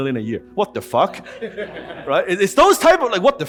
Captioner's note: audience laughs